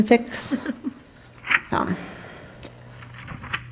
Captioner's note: chuckling